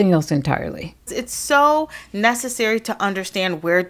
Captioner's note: soundbite of archived recording